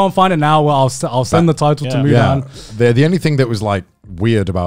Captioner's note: murmurs